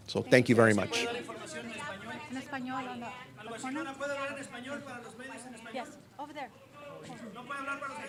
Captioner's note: reporters asking questions in Spanish